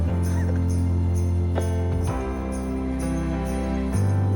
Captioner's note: Nicolas chuckles